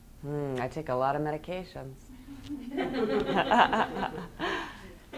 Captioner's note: laughs